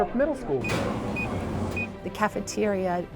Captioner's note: beeping